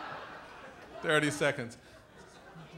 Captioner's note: laughter